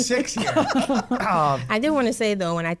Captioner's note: laughs